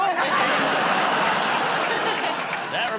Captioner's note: laughter